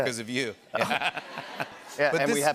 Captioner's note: laughter